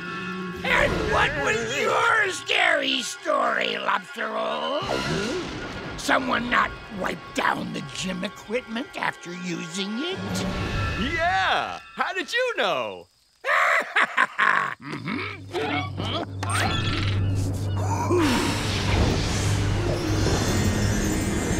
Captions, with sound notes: And what was your scary story, lobster roll? Someone not wipe down the gym equipment after using it? Yeah. How did you know? [cackles]